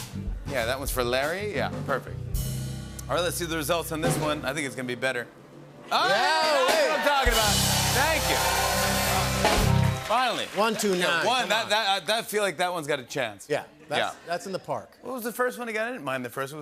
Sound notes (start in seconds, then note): 5.9 cheers and applause